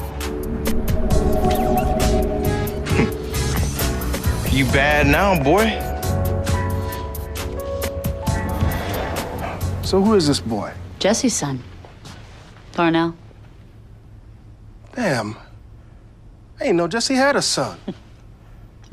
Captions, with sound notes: ( wry laugh ) You bad now, boy. So, who is this boy? Jessie's son. Darnell. Damn. I ain't know Jessie had a son. Why would you?